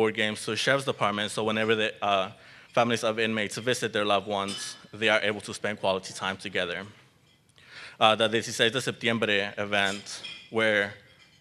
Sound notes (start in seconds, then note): none